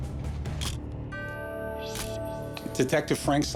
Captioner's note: camera shutter click